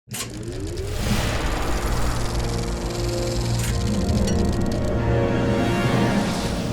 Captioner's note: air whooshing; film reeling clicking